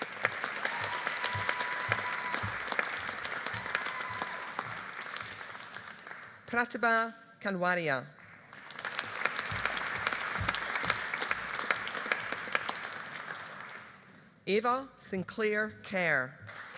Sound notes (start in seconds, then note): 0.0 audience applauding; 8.3 audience applauding